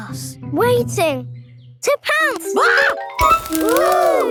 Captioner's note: screams